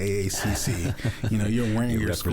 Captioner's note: chuckles